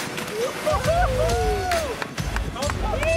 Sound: men hooting

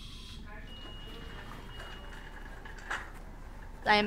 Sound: beeping

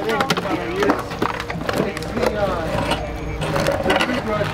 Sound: background chatter

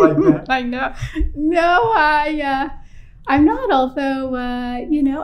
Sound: laughter

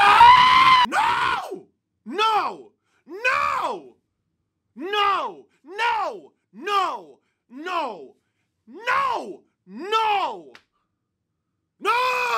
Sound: tortured screaming

